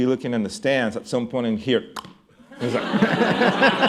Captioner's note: imitating bat hitting ball; laughter